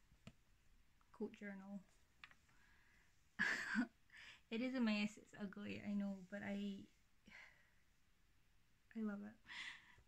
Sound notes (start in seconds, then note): 3.1 laughs